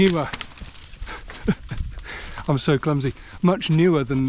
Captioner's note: laughs